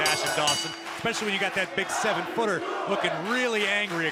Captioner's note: bell ringing